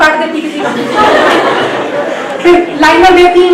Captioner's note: everyone laughs